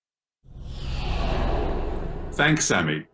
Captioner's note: air whooshing